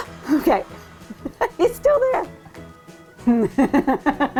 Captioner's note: laughing